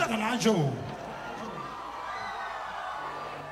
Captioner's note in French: cris d'enthousiasme